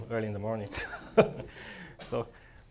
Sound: laughs

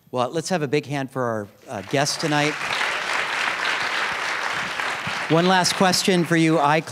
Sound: applause

